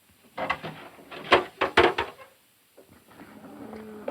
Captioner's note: clattering